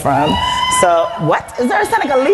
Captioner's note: cheering